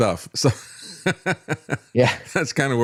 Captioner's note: laughs